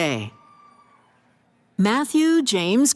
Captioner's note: cheering